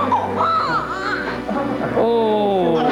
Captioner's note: baby Crying